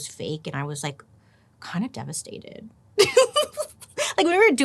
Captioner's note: giggling